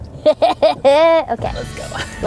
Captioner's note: laughs